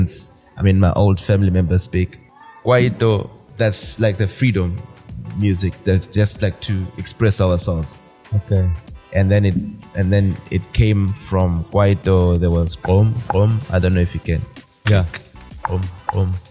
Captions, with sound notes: I mean, my old family members speak. kwaito, that's like the freedom music. That's just like to express ourselves. Okay. And then it came from kwaito, there was [Beatboxing]. I don't know if you can. Yeah.